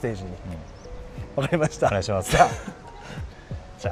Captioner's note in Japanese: 笑い